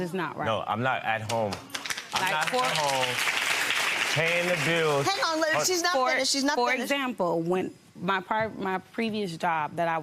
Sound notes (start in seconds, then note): 1.5 audience applause